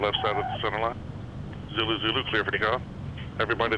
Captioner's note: radio